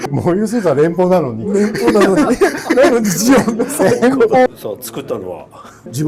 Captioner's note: laughs